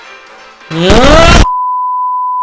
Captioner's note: earrape Very angry noises